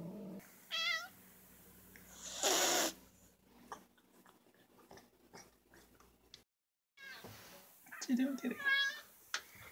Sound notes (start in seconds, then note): 0.7 meow!; 2.2 hisss!; 4.4 silence; 7.0 meow